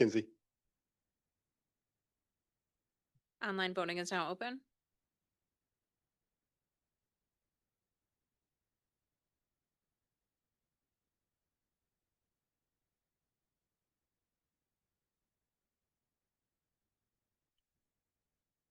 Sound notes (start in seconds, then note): 4.9 silence